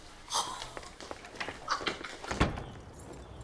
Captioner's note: laughing